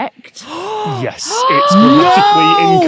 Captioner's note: gasp